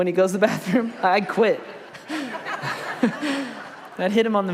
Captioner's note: congregation laughs